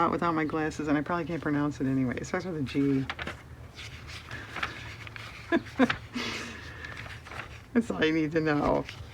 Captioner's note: laughs